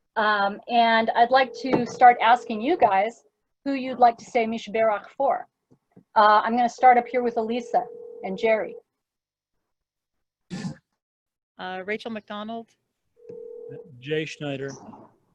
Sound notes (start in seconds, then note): 0.8 phone ringing; 7.5 phone ringing